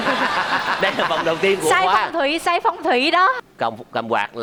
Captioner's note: laughing